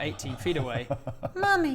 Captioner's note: giggle of realisation